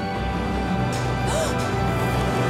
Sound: gasping

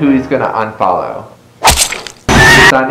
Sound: slicing noise; scream

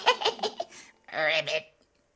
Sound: laughing

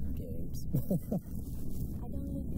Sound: laughs

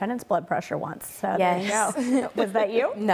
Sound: laughing

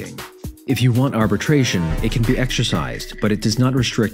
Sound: Among Us - Suspicious Sound

